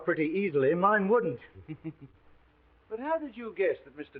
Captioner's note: Sherlock chuckling